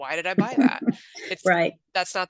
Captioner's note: laughs